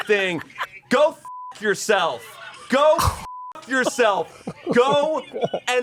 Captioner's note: beep